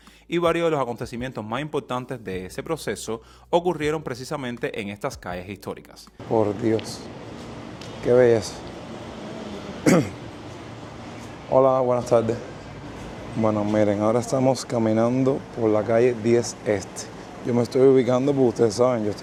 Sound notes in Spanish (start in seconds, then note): 9.8 carraspeo